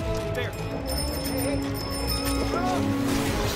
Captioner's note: bicycle bell rings